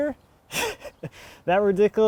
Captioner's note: chuckling